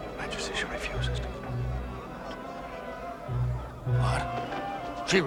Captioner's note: whispering